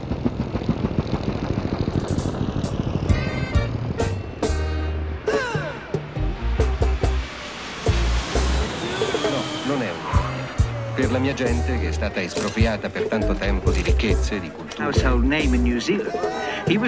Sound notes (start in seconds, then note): 3.5 upbeat music; 9.6 speaking in foreign language